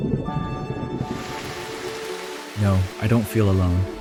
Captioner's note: bubbles; rain